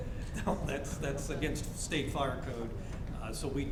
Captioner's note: chuckles